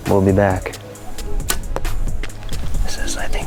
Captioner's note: arrow thuds